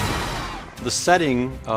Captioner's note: sea creature screeching